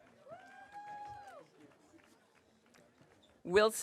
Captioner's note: audience cheering